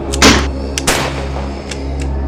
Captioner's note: gun Shot; groaning Gets Closer